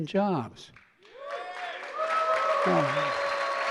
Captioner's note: applause